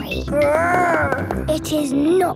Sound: growls

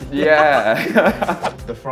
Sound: laugh

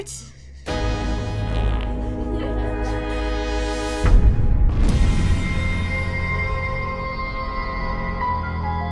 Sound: giggling

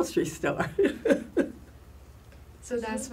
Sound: laugh

